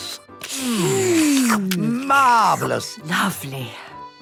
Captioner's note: slurping